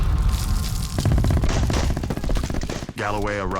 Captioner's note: firing